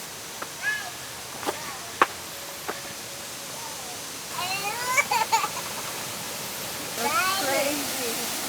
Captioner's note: laughing